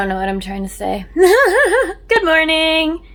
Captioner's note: laughs